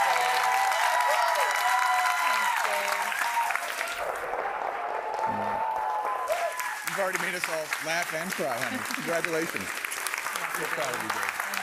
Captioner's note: applause